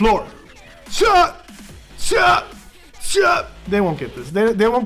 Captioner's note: making karate noises